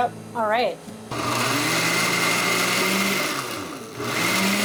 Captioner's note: blender whirring